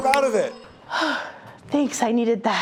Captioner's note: sighing